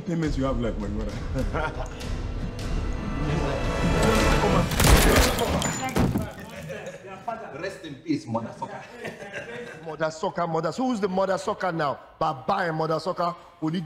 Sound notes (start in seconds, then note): 1.3 laughing; 1.8 tense music escalating; 4.6 blood splattering; 4.7 gun firing; 6.2 Kodjoe thudding; 8.4 laughing; 13.6 Baba speaking in Igbo